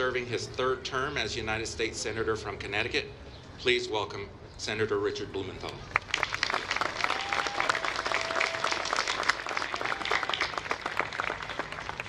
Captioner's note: applause